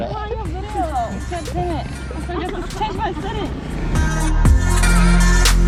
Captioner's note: speaking in Thai; upbeat music